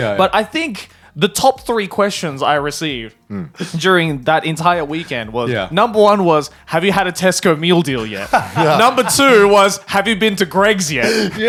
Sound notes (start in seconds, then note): 8.0 laughs